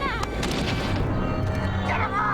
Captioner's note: ethereal humming